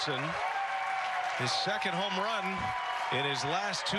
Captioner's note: cheering